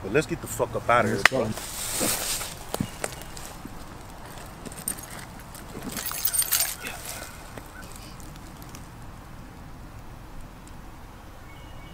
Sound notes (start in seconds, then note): 0.0 leaves crunching; 5.8 keys clanging